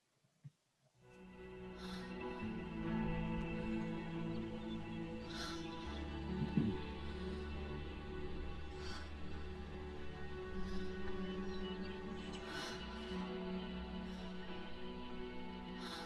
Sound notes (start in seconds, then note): 1.1 Senua gasping; 1.1 gentle music